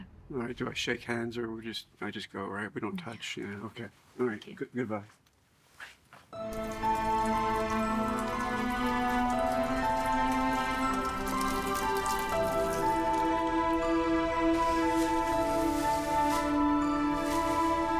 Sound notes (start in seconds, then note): 6.3 alcohol trickling; 6.3 mellow music